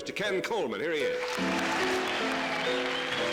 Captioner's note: applause